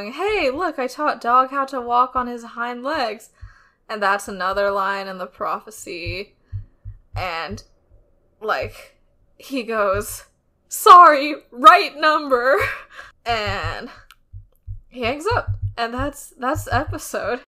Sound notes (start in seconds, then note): none